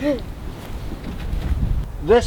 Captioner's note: short laugh